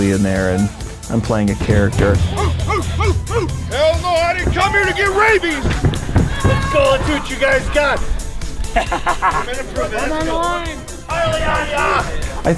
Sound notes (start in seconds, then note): 2.4 barking; 8.8 laughing